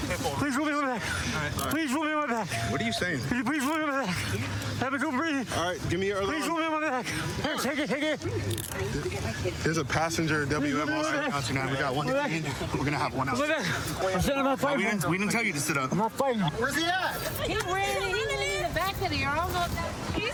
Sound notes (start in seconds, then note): 11.7 excited chatter